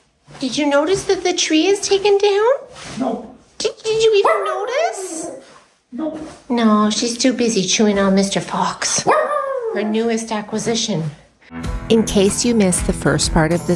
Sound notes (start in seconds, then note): 4.7 howling; 9.0 dog barking